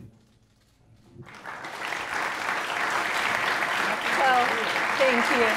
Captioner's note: applause